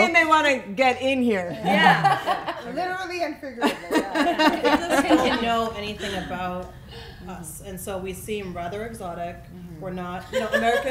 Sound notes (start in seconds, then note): 1.6 laughing; 3.6 laughing drowns out speaker